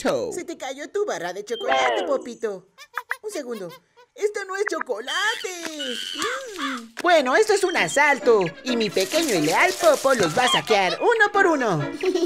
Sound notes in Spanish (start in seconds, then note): 2.6 sonido de mono